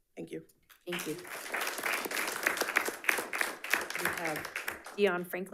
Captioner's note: audience applauding